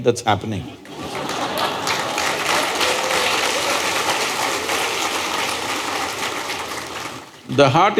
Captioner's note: laughter/Applause